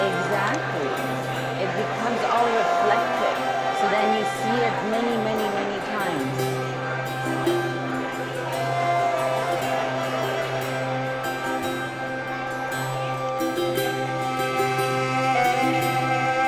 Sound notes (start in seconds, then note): 8.2 crowd loudly chattering; 8.2 gentle music